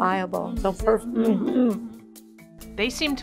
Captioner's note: murmuring agreement